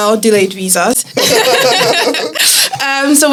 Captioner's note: laughs